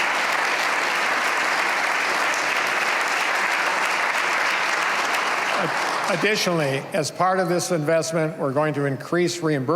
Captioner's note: cheers and applause